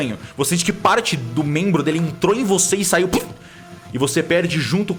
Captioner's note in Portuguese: puff